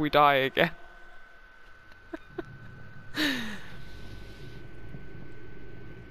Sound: laughter

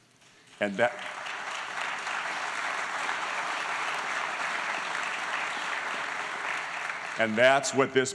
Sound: applause

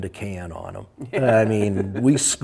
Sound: laughs

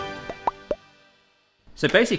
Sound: popping sounds

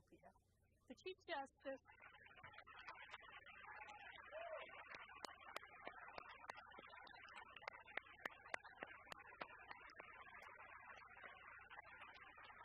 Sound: applause

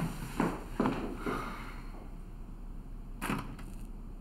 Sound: Nancy sighs

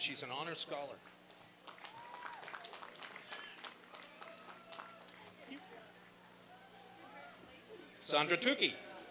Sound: applause and cheering

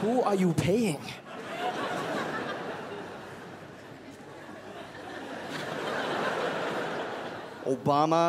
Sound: crowd laughs

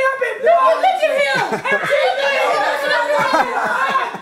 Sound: overlapping yelling

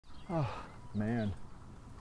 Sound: sigh

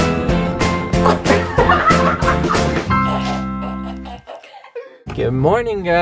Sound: laughing Loudly

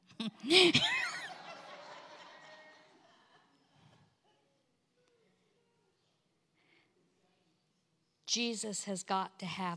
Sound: congregation laughs

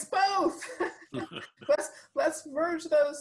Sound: laughing

